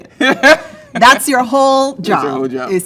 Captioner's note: laughs